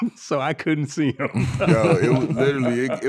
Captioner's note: laughing